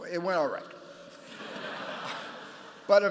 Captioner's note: laughter